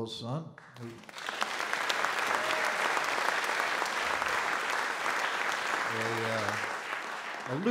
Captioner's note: audience Applause